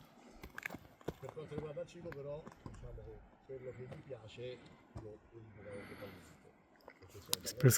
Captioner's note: explanations in Italian